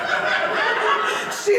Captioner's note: latina accent